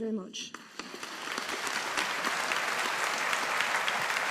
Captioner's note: audience applauding